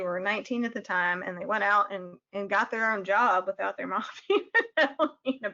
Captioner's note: laughing